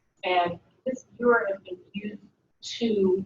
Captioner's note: speaking away from mike